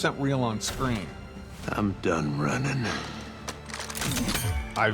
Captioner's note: gun cocks